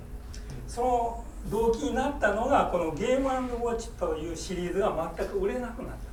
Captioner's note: speaking in foreign language